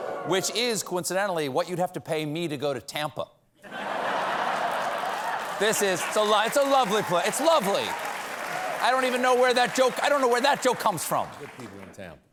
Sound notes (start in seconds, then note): 0.0 audience reacts; 3.6 laughter